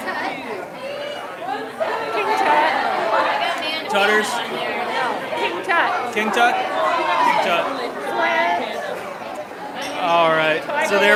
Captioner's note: applause